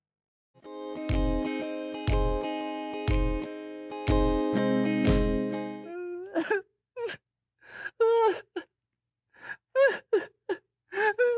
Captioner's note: crying noises